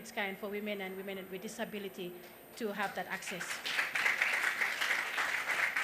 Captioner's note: applause